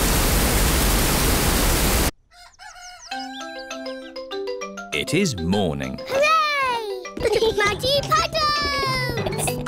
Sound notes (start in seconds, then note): 2.2 cockerel crows; 9.1 giggling